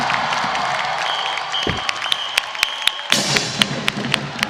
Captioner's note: audience cheering and applauding; whistle tooting; festive percussion music